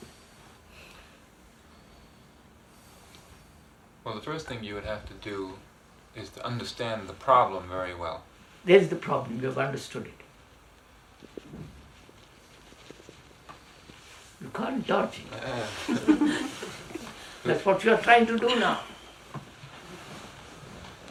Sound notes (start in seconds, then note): 15.6 laughter